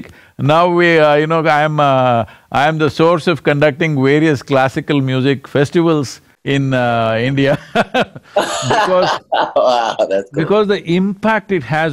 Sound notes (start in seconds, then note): 7.5 both laugh